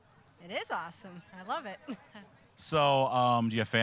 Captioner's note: laughing